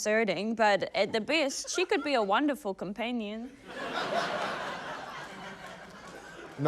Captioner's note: laughter